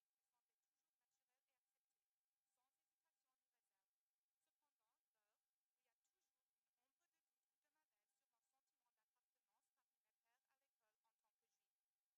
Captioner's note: speaking French